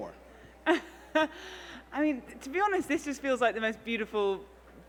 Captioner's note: laughs